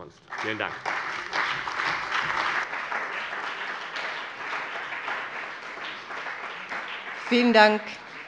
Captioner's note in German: Beifall des BÜNDNISSES 90/DIE GRÜNEN und der CDU